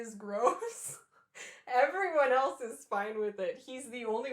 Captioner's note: laughter